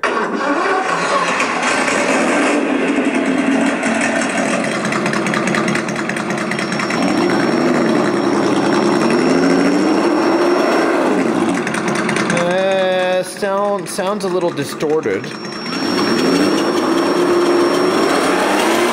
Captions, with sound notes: (engine starting) (engine revving) (engine rumbling) (engine accelerating) Eh, sounds a little distorted. (engine revving)